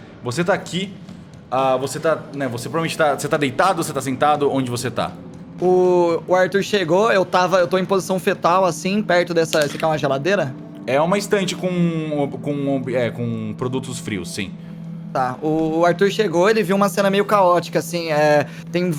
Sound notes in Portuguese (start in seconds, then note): none